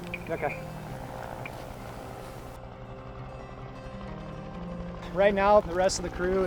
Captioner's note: helicopter whirring